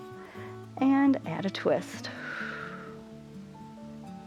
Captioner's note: exhales